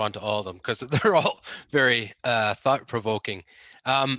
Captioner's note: laughs